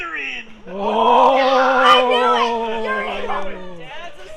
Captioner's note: yelling in glee